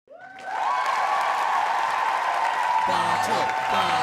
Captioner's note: cheering